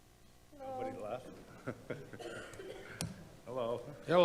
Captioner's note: laughs